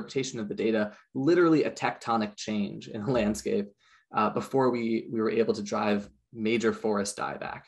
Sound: chuckles

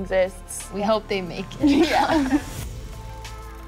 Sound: both laugh

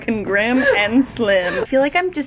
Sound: laughs

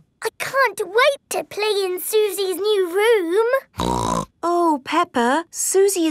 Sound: snorts

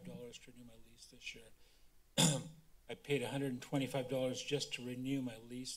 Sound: coughs

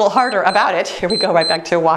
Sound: timer beeps

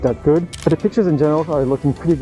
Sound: camera clicking

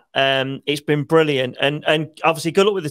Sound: none

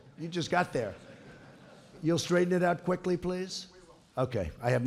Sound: laughter

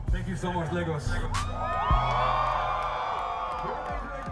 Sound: crowd cheering

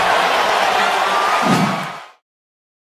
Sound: woosh

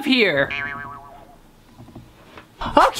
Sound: sound effects

